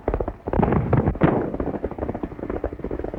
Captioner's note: gunshot